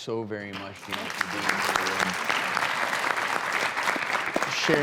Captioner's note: clapping